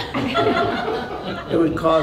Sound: laughter

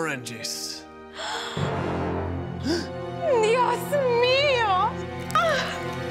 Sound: gasps

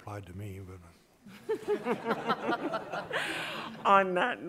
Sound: all laughing

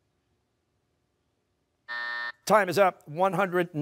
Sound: buzzer

